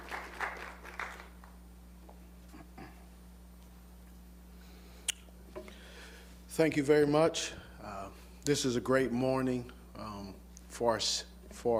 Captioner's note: applause